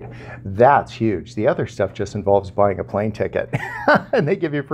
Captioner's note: laughs